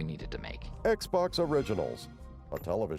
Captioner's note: xbox sound